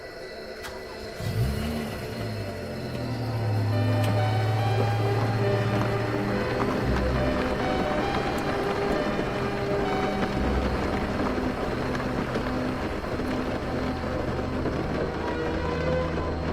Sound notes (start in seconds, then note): 0.9 engine revving; 3.9 thrilling music